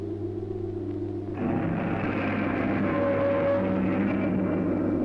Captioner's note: roaring